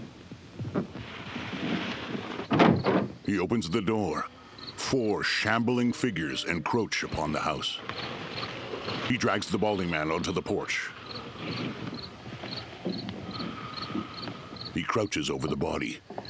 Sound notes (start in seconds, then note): 2.3 crickets chirping; 4.1 creatures groaning